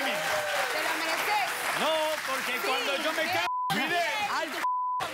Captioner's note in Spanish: Risas; Aplausos; Risas